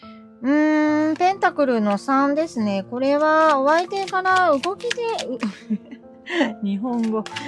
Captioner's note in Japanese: 笑い